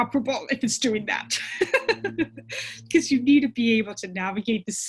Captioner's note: laughs